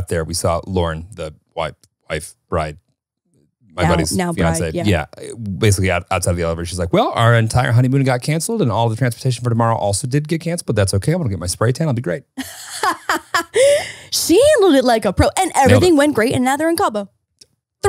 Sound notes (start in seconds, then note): 12.4 laughing